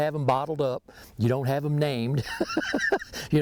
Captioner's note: laughing